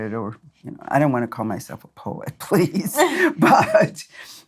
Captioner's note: laughs